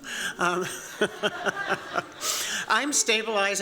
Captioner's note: laughter